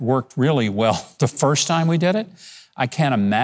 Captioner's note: laughs